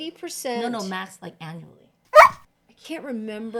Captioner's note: barks